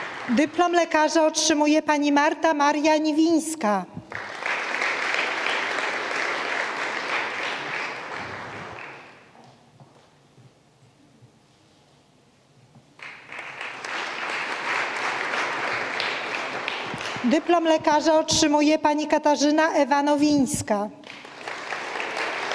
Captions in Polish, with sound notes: Dyplom lekarza otrzymuje Pani Marta Maria Niwińska. [oklaski] Dyplom lekarza otrzymuje Pani Katarzyna Ewa Nowińska.